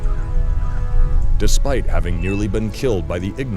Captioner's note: victorious music; voiceover